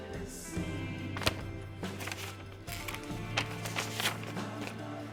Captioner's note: paper rustles